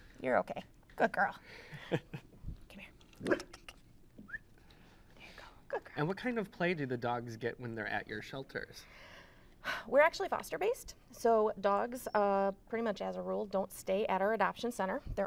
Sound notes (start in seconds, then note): 3.2 Rose barks; 3.2 laughs; 4.2 whistles